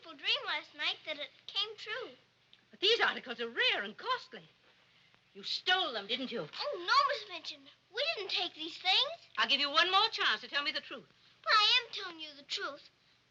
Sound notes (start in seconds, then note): none